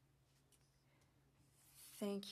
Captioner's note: speaking French